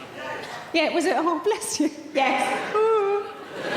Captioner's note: imitates crying